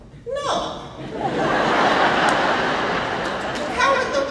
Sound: laughing

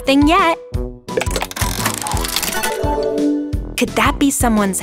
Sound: tile clicking; bells chiming

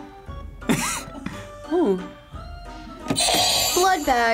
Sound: laughs; buzzer rings

